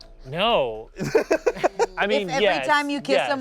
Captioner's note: laughs